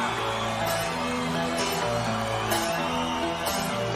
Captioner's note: audience cheering